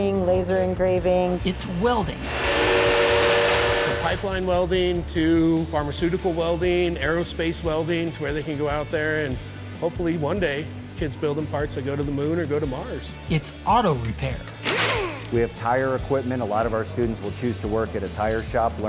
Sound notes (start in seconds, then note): 14.6 machine buzzing